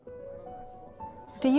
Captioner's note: peole talking